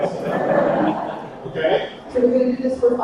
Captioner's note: attendees laughing